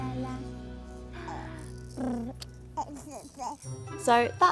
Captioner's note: blubbering